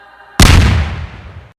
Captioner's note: gunshot